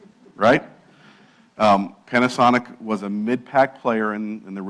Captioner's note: laugh